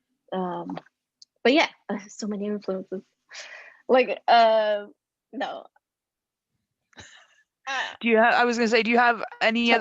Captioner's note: laughs